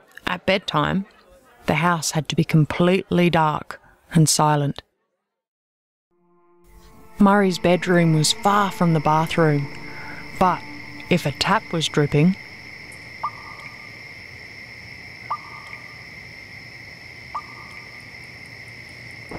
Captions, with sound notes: At bedtime, the house had to be completely dark and silent. Murri's bedroom was far from the bathroom, but if a tap was dripping... [Sounds of slow tap dripping]